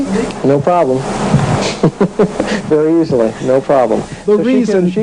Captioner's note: laughs